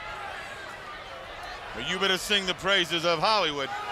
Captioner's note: crowd chatter